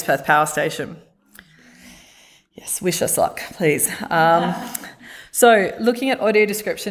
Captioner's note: laughter